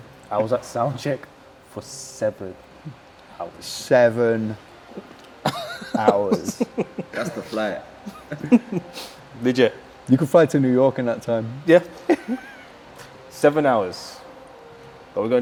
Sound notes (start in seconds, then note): 5.4 laughing; 12.0 chuckles